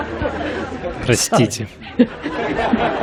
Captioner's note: Смех